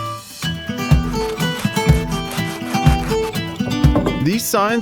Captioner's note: sanding paper scratching